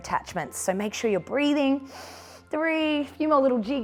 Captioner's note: inhales